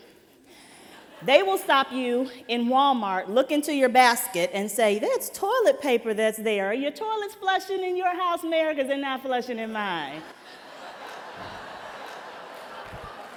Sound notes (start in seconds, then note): 1.1 laughter; 10.2 laughter